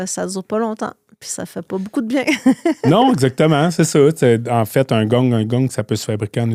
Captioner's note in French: rires